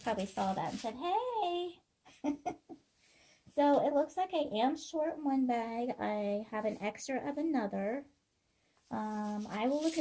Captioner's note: laughing